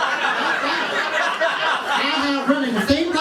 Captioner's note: laughter